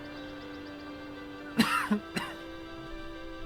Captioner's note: coughs